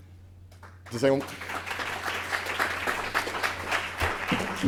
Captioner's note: applause